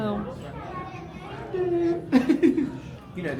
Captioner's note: crowd chattering; laughing